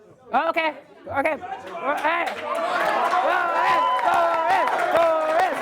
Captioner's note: applause